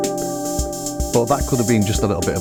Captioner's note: static